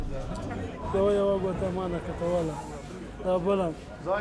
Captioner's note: speaking native language